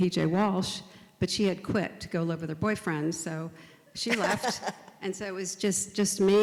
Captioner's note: laughs